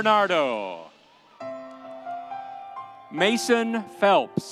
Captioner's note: soft music; audience cheering